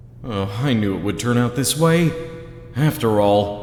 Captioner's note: none